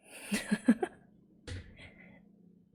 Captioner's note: laughs